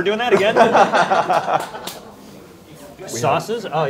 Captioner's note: laughing